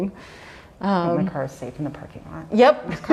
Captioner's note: laughs